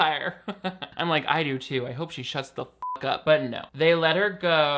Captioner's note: beep